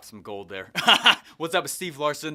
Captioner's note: laughs